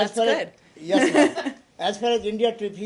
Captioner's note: laughter